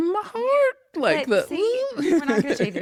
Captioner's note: laughs